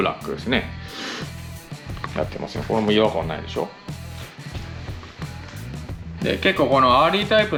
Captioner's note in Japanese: 鼻息